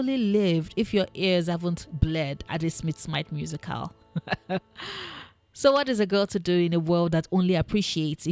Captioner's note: laugh